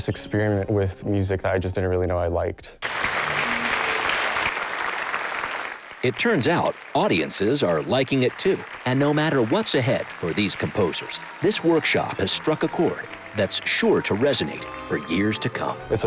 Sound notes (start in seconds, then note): 3.2 audience applause